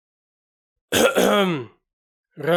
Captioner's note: cough